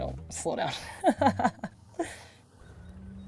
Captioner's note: laughs